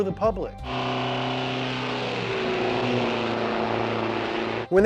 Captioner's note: engine roaring